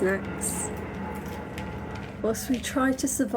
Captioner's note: loud metallic clanging